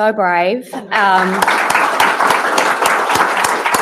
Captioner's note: applause